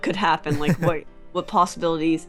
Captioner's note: laughter